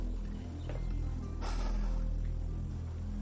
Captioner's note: Travis exhales